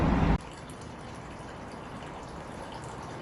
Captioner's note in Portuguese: som de água na fonte